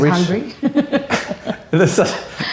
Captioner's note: laughs